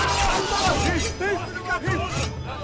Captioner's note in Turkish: Bağrışma sesleri